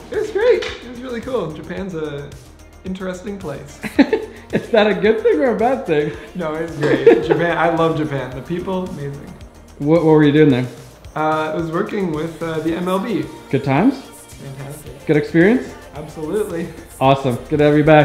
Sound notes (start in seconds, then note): 6.0 laughs